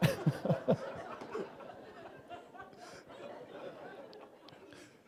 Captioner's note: laughter